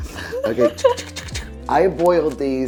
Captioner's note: laughing; imitates whisking